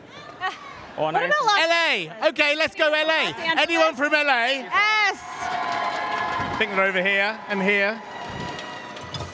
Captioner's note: cheers and applause